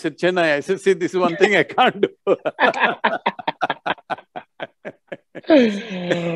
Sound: both laugh

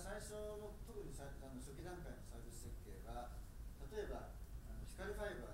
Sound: speaking in foreign language

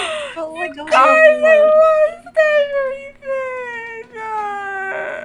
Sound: crying

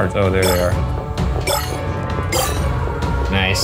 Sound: shards bleeping

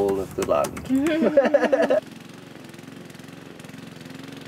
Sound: laughter

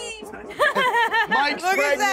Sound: woman laughs

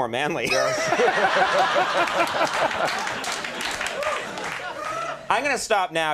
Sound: all laughing; scattered applause

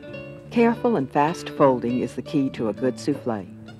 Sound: voiceover

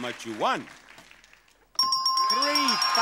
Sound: bell dinging

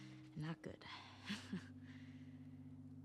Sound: laughs

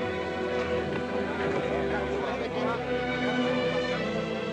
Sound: people chattering

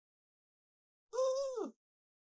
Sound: old timey noises

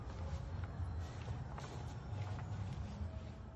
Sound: grass rustling underfoot

